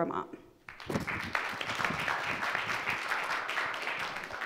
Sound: audience clapping

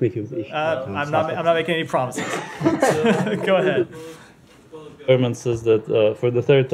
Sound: laughter

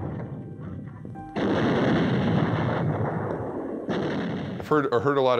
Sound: shell exploding

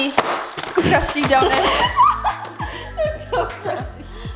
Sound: giggles

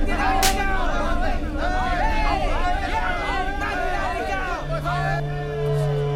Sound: Malay Language

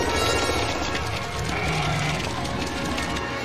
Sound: centipede growls

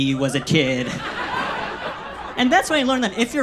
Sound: audience laughs

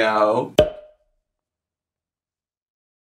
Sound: text pop

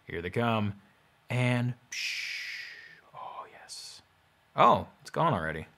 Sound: sighs

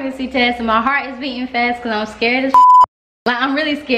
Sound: beep

